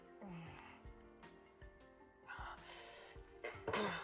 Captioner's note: grunting